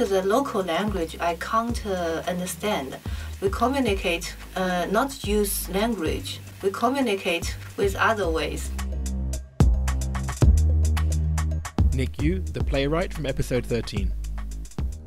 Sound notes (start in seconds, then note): 10.2 voiceover